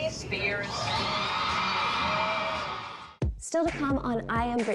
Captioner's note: crowd cheering